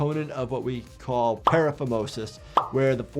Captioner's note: graphic popping